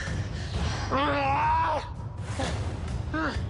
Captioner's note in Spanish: Grito